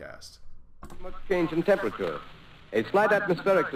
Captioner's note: radio